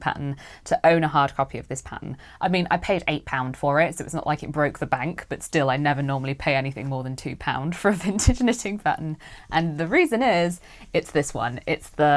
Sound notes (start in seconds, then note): none